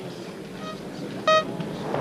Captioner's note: bomb beeping